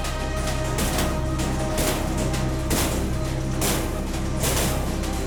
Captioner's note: riot sounds in background